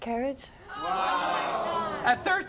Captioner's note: audience gasps